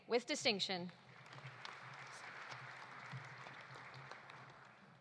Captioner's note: audience applauding